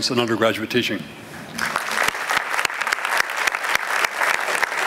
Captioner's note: applause